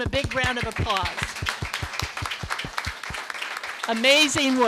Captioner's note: applause